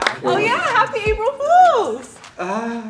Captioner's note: applause